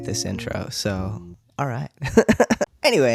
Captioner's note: laugh